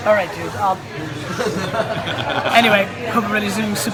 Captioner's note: laughs